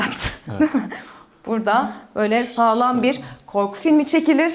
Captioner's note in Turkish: kahkaha